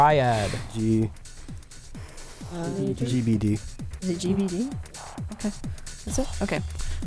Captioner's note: wispering